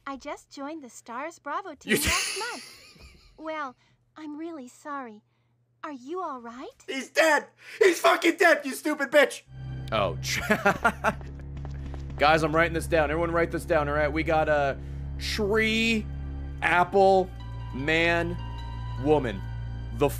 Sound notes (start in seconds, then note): 10.3 laughs